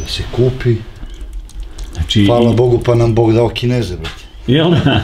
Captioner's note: laugh